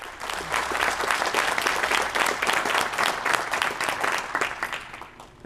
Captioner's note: applause